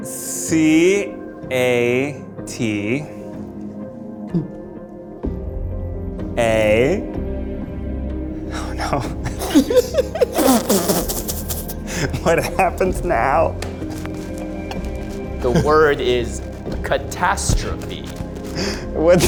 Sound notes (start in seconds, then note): 1.4 suspenseful music; 8.6 group laughing